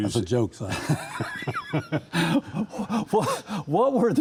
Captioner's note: laughing